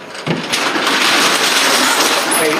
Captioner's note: roller shutter opening